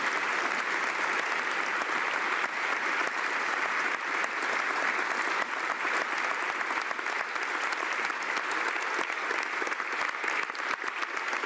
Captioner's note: applause